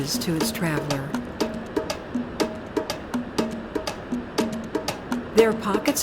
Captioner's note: upbeat drum music; water rumbling